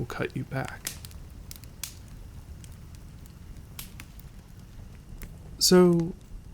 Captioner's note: snaps of the crackling fire